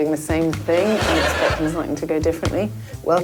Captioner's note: audience laughing